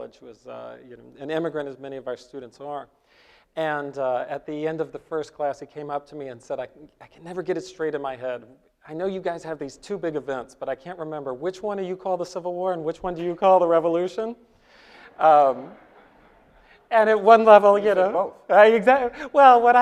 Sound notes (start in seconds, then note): 15.0 audience laughs